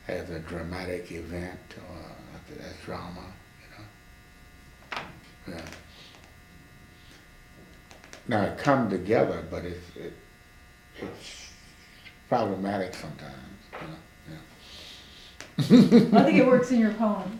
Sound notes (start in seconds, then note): 11.8 laughs